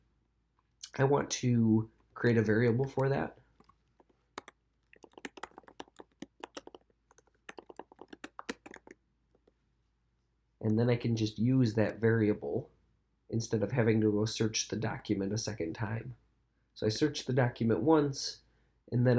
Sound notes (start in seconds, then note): 5.0 keyboard clicking